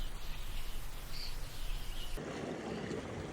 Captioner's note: birds singing; water splashing